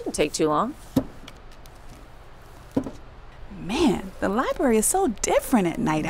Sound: sound of books being put on shelves; growling

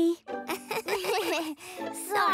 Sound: both laugh nervously

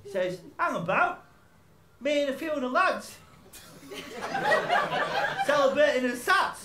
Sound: laughter

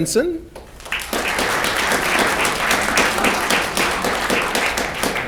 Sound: audience clapping

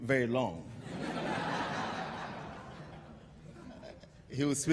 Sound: laughter

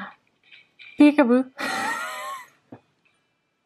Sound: laughs

